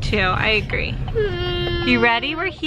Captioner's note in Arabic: أنين